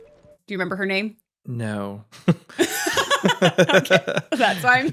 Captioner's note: laughs